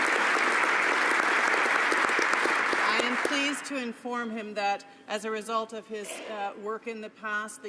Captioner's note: some Applause